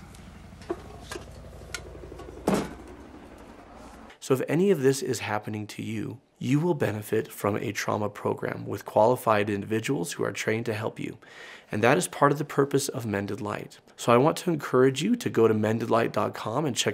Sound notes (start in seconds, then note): 0.0 helicopter whirring